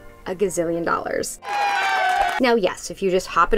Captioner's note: people cheering